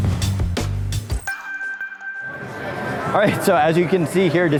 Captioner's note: chimes